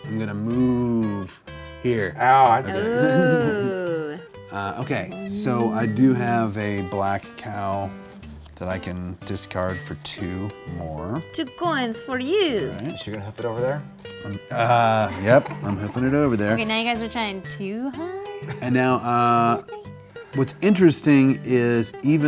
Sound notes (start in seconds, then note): 18.0 chuckles